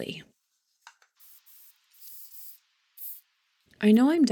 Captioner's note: spray sounds